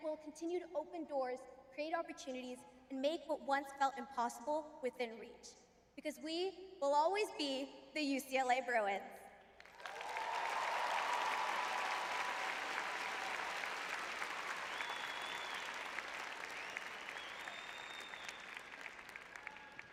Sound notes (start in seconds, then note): 9.9 applause; 12.4 cheering